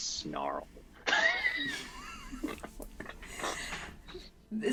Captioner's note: laughs